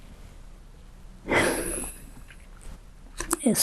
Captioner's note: sighing